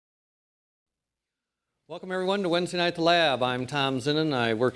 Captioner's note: voiceover